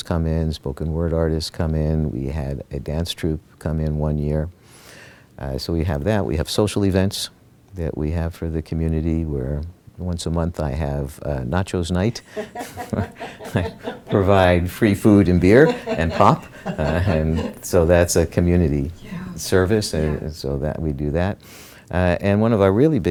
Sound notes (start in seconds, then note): 12.2 laughter